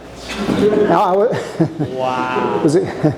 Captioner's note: audience laughing